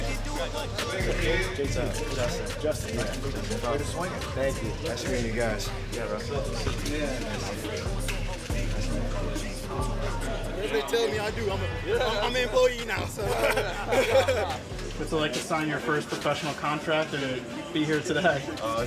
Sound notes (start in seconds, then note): 7.9 people chattering; 13.0 both laughing